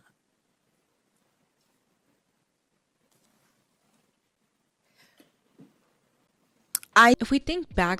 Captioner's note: long, purposeful pause